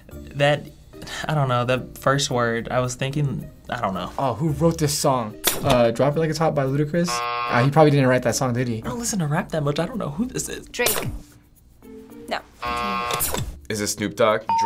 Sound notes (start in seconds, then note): 7.0 buzzer; 14.5 ding